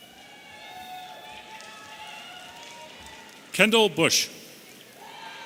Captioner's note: audience cheering